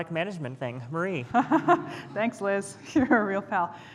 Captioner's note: laughs